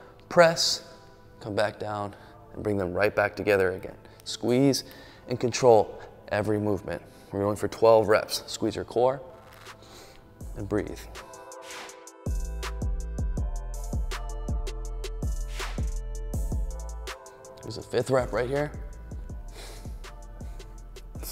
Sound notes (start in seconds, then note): 9.8 sniffles; 12.0 upbeat music; 15.3 air whooshing; 19.3 exhales